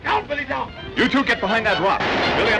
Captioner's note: crash